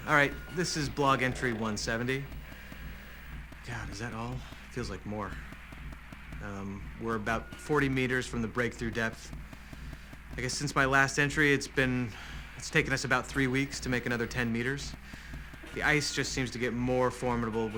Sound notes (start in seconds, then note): 3.8 sighs